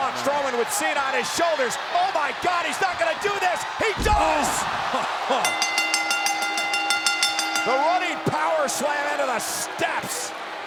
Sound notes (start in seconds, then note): 5.4 bell rings